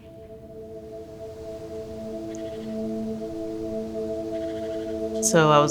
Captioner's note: woodland birds chirping